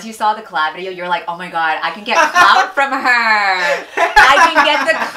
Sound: laughs

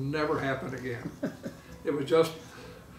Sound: laughing

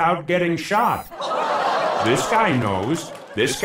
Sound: audience oohs

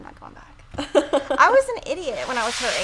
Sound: laughs

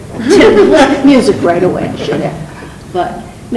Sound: laughs

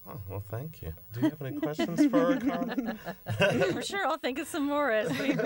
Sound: laughter

